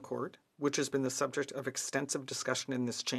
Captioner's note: speaking french